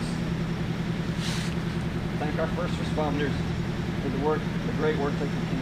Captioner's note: sniff